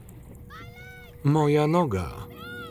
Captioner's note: screaming